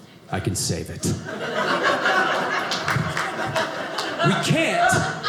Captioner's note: audience laughing